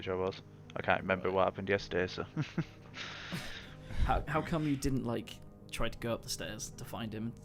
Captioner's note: laughs